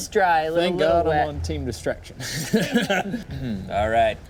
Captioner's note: laughs